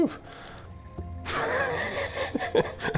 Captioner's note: laughs